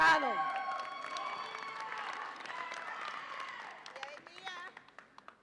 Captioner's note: audience applauds and cheers